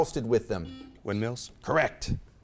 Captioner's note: beep